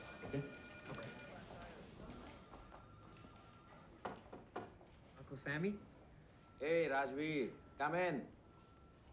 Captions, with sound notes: Okay? - Okay. (knocking) - Uncle Sammy? - Hey, Rajveer. Come in.